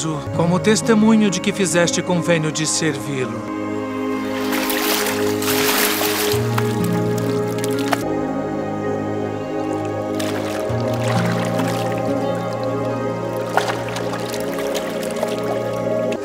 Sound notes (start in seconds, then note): 3.5 sound of music and diving in water